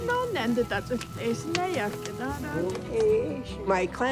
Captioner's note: woman speaks navajo